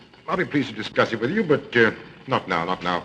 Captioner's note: none